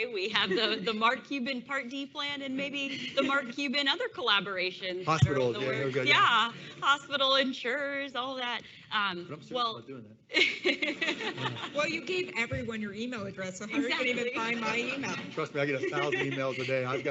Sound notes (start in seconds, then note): 10.4 laughing